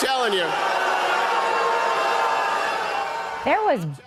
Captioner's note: booing continues